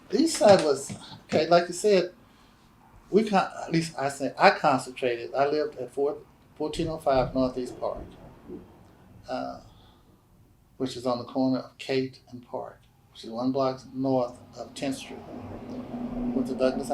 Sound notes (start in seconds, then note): none